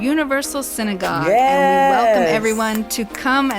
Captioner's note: snaps